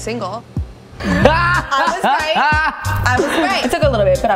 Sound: laughs

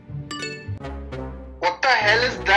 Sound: gentle upbeat music; message pops

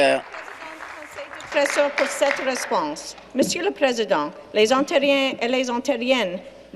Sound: applause

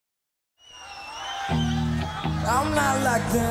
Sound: crowd cheering

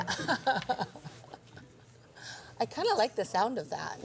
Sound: laughs

